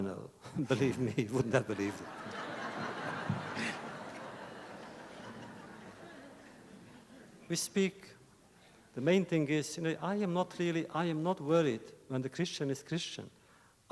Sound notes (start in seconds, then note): 0.6 laughter; 1.6 laughs